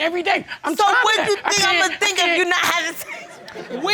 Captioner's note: laughs